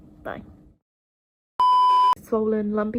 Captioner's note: screen beeps